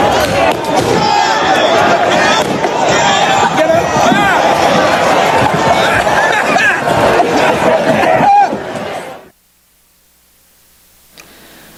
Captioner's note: shouting